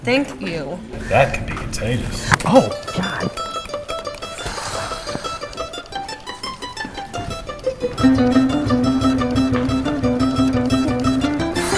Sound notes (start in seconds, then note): 4.4 sally exhales angrily; 11.5 scoffs